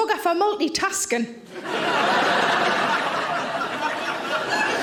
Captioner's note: audience laughing